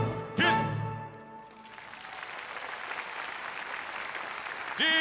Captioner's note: audience applauds